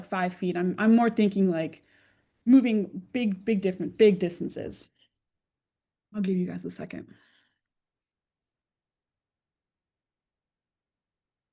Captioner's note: pause